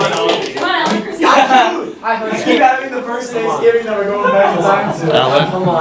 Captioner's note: talking